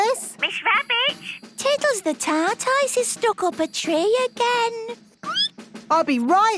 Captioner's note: squeaking